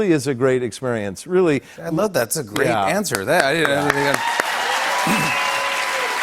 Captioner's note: cheers and applause